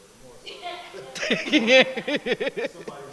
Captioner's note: laughter